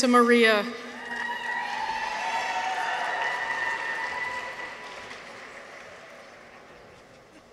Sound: people cheer; audience applauds

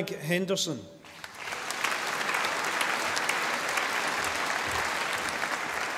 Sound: audience applauding

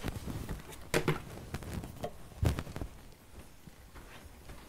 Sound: footsteps walking

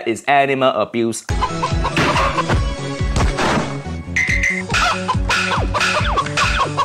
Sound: upbeat music; chicken clucking

